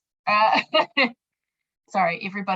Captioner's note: laughing